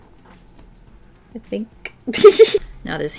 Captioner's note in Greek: Γέλια